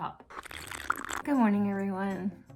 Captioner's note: slurping